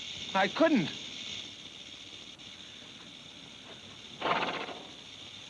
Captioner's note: snake rattles